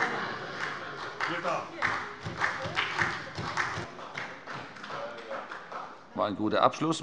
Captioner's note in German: Heiterkeit und Beifall bei der SPD